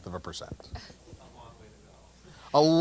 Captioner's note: laugh